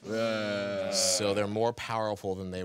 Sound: group groaning

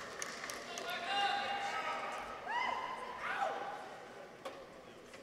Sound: audience members cheer

